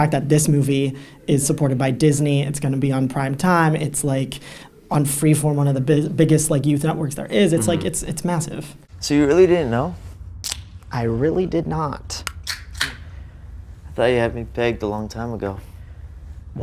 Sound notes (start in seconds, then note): 12.3 soda can pops